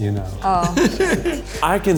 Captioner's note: laughs